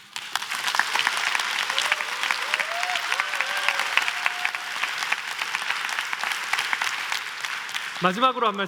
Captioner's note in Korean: 박수와 환호